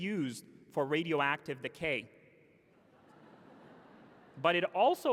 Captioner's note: laughter